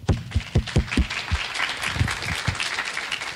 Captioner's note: clapping